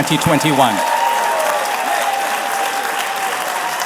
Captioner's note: applause